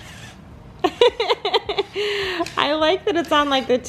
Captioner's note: laughs